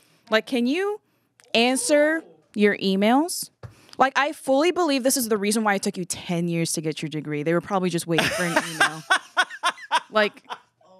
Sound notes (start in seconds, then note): 8.1 laughs